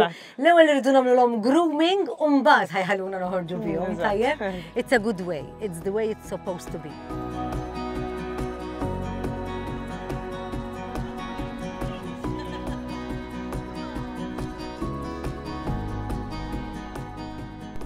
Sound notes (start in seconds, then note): 7.6 acoustic music; 11.9 giggles